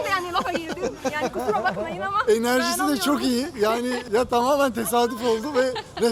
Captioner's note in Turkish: kahkaha